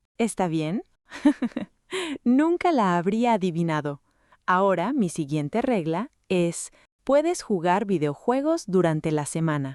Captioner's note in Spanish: risas